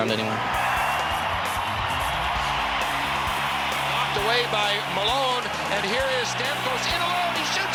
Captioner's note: crowd cheers